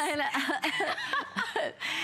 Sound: laughter

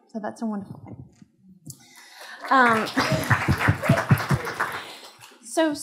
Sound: applause

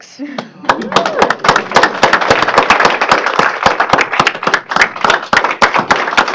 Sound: extended applause

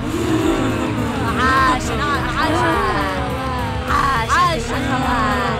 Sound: grunt; cheering; evil laughter

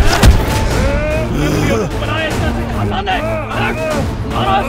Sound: chaotic shouts

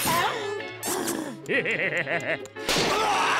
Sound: sighs; laughing; screams

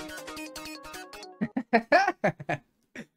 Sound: laughing

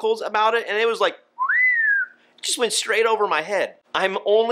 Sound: whistles

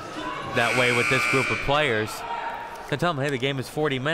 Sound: buzzer sounding

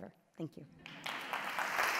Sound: applause

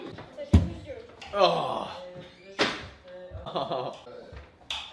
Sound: background chatter; hand tool pops; background chatter

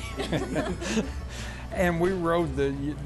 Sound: laughing

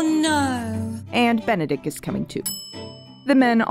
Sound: bell ding

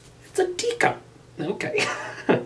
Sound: laughs

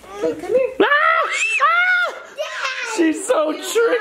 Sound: screams

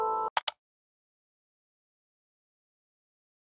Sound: click

